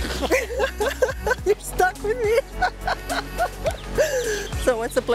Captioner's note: laughs